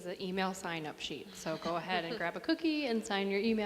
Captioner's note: laughs